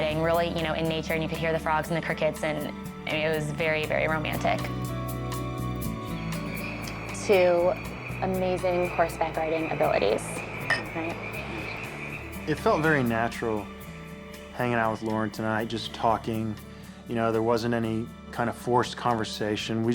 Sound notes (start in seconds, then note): 10.6 glasses clink